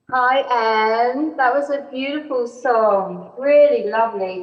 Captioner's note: none